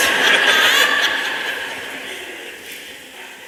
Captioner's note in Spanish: Risas